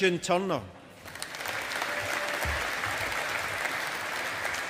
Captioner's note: audience applauding